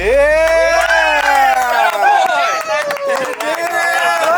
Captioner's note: men cheering